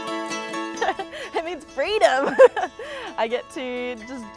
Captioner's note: bright music; laughs